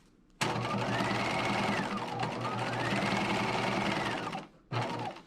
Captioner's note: sewing machine whirring